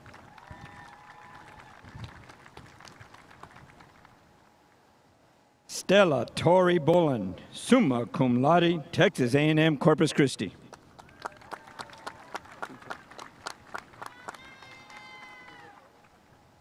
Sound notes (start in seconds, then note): 0.0 spectators applauding; 10.7 spectators applauding